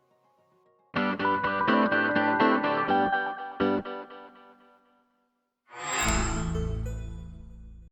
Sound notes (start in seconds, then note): 1.0 upbeat music playing; 5.9 microsoft sound